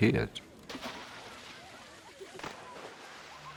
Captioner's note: splashing, kids chattering